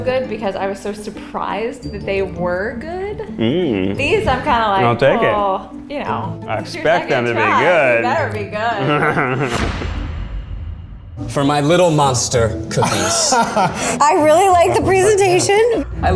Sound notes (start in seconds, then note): 8.7 Ned laughs; 12.7 group laughs